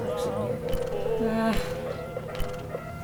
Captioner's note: phone scroll